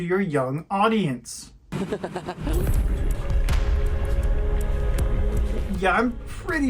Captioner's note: dumb laughter